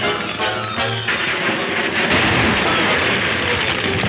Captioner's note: stable crashing